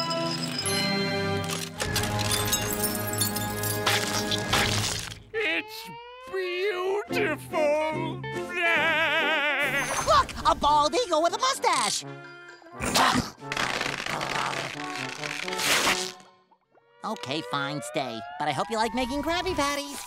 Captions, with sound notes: it's beautiful. [laughing] Look! A bald eagle with a mustache! Okay, fine. Stay. But I hope you like making Krabby Patties.